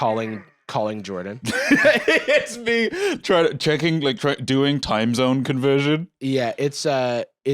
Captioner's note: laughs